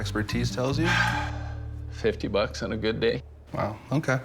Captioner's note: sighs